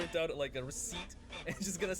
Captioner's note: printer sounds intensify